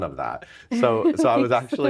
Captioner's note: laughing